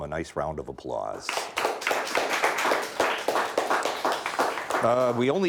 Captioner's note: audience clapping